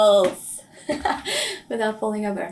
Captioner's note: laughing